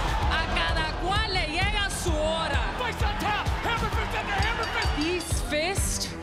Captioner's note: foreign language